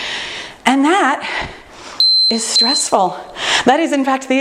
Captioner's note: timer beeping